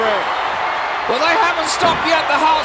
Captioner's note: audience cheering